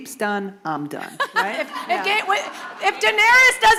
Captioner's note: laughter